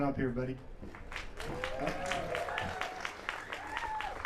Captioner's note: applause